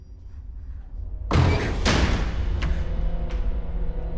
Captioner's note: latch clatters; door slams